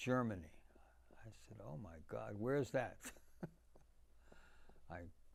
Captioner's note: laughing